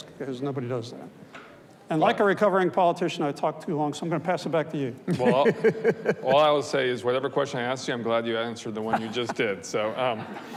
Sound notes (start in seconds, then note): 5.1 laughs